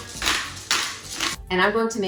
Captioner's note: grinder clicking